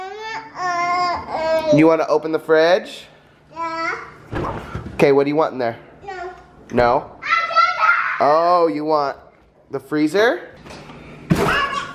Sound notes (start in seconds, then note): 0.2 mutters; 7.3 yells; 11.7 yells